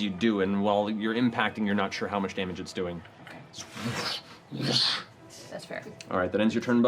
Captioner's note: whoosh